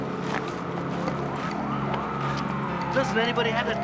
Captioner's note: distant sirens wailing